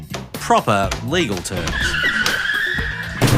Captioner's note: car tyres screech